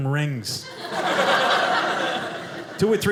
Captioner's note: audience laughing